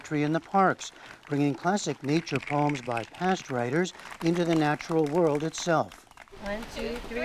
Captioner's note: applause